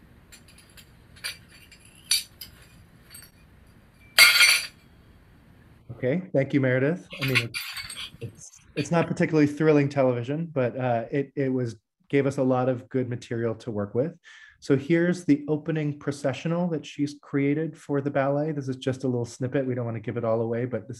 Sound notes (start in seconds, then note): 4.1 sound of plates breaking